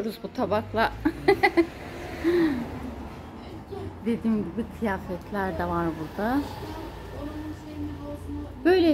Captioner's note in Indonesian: Tertawa